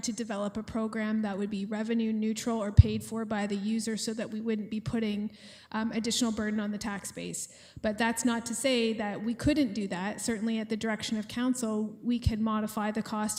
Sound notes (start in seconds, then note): none